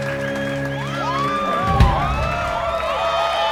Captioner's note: crowd cheering